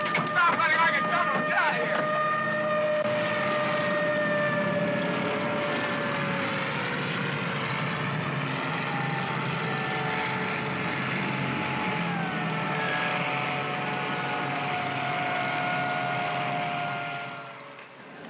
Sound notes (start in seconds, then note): 2.0 sirens wailing; 5.8 vehicles rumbling; 17.5 city street sounds